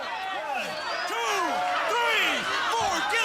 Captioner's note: crowd chatter